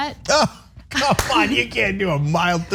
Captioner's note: laugh